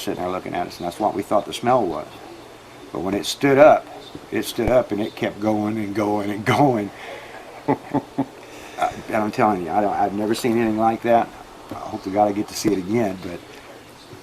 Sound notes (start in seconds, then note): 6.4 chuckles